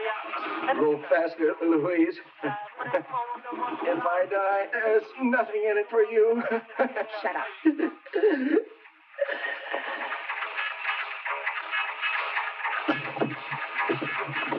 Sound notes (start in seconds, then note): 6.2 laughing; 8.2 John gasping